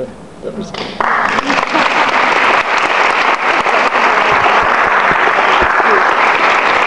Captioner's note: audience applauds